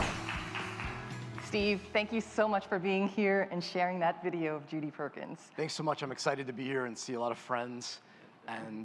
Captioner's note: applause